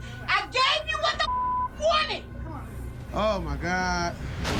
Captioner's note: beep